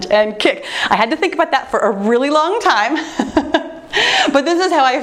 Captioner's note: laughs